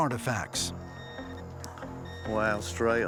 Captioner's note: metal detector beeping